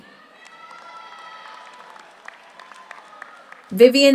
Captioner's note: audience cheers; audience applauds